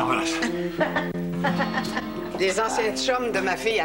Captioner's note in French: Rires